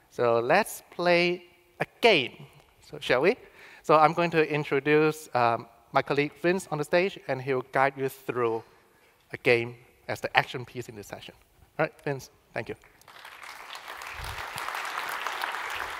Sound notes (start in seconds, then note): 12.8 applause